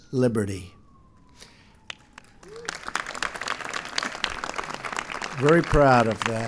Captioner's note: applause